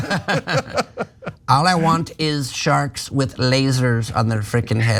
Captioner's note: laugh